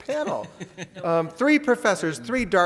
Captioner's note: laughs